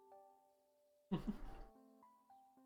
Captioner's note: chuckles